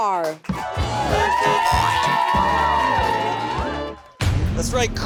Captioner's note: upbeat music; car honks